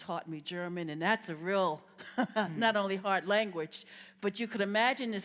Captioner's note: laughs